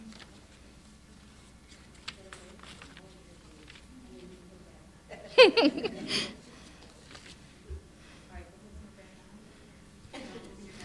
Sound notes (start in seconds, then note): 5.2 chuckling; 8.2 people chattering